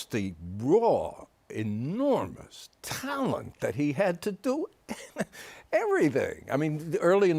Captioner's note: chuckles